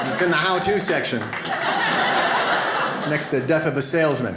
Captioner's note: audience laughs